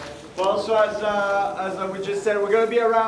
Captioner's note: applause